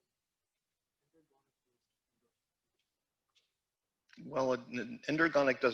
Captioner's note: student speaking quietly